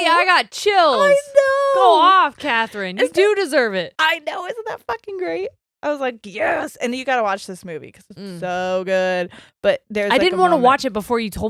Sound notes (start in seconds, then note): none